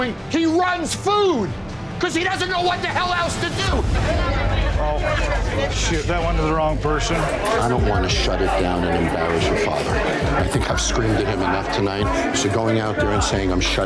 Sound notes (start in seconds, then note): 3.5 chatter